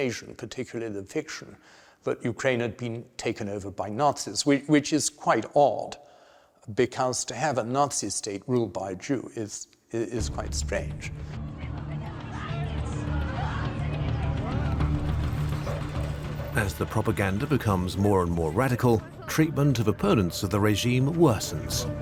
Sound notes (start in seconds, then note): 12.0 panicked shouting from crowd